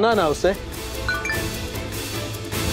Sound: phone rings

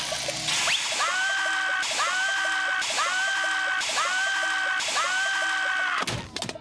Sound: screaming in pain

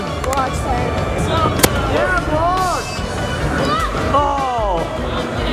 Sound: people clamoring

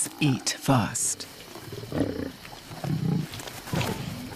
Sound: growling

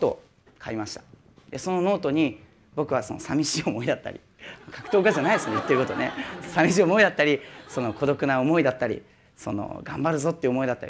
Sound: laugh

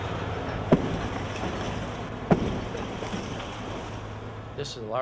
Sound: massive slams

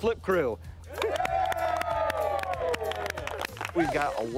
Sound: crew cheering

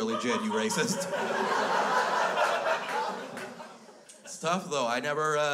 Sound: crowd laughs

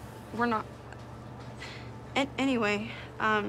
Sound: stutters

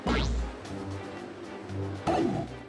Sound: video game sounds

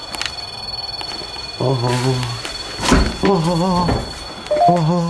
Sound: ghost tube warning sound

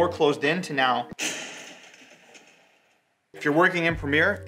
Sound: crashing

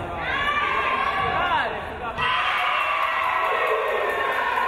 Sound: crowd cheering

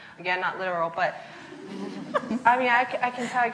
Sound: laughs

